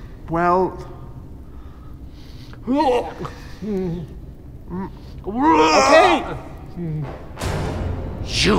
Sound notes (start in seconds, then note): 2.6 gags